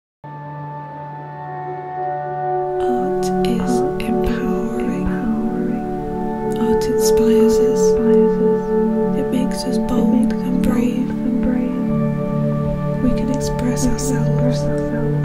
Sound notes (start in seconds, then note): 2.6 voices echoing